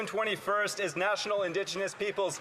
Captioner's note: speaking French